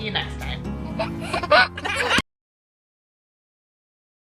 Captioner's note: baby laughs